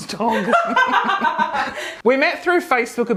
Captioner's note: woman laughs